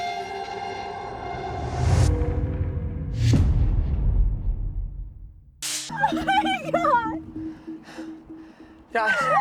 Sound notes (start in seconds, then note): 6.3 crying